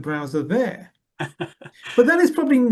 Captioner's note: laughs